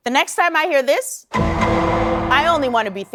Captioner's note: "Law & Order" sound effect